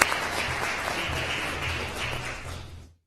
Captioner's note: applause